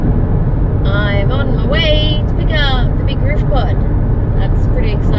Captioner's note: in a sing-song manner